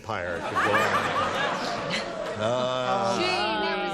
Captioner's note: laughter